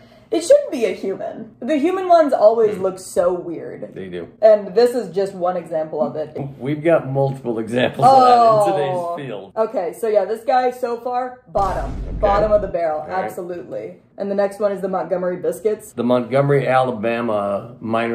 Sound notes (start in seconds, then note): 11.5 Vine boom; 14.8 action music